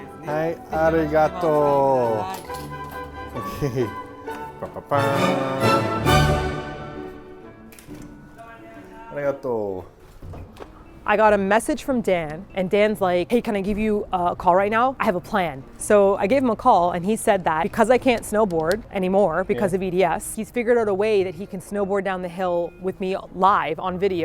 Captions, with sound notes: Hai, arigato. Okay! (mimicking fanfare sounds) Arigato. - I got a message from Dan and Dan's like, "Hey, can I give you a call right now? I have a plan." So I gave him a call and he said that because I can't snowboard anymore because of EDS, he's figured out a way that he can snowboard down the hill with me live on video,